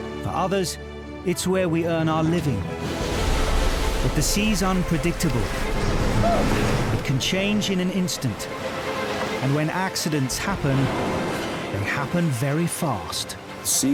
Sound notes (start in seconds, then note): 5.9 crew member shouts; 5.9 waves crashing